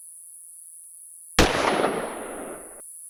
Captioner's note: gunshot